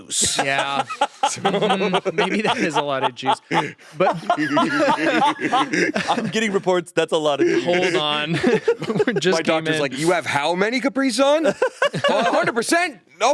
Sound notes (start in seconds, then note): 0.0 laughing; 3.4 all laughing